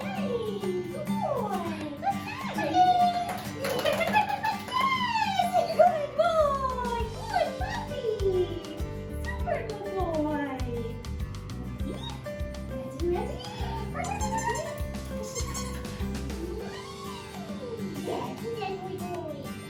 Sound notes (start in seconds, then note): 3.6 babbling; 13.3 toy squeaking; 15.1 babbles; 16.3 trilling